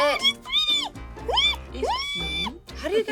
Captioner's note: high pitched squealing